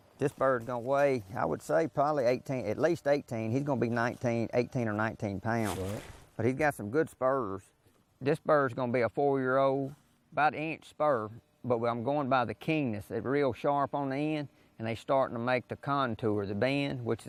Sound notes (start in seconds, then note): none